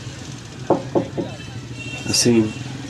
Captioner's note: knocking door sound